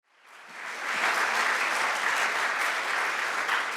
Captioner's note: audience applauds